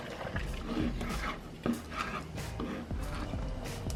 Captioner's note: knife cutting